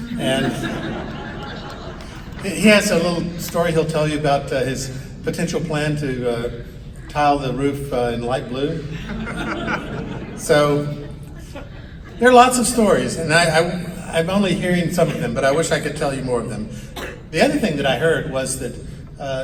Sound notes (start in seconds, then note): 0.0 audience laughs; 8.7 audience giggles